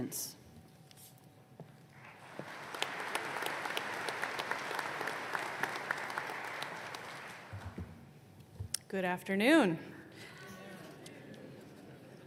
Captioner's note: applause